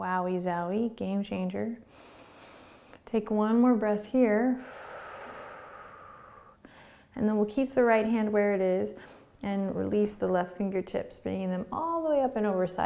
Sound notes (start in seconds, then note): 4.6 exhaling